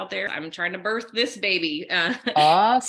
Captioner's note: laughing